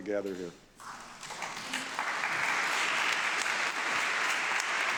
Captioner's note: audience clapping